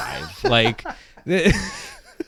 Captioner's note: both laughing